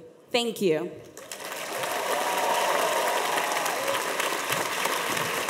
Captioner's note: audience applauds